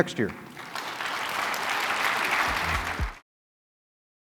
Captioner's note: applause